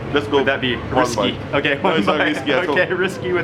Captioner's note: chuckles